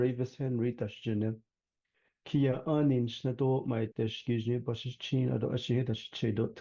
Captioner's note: speaking in traditional Dine language